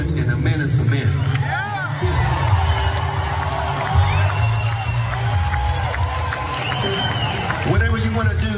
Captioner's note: applause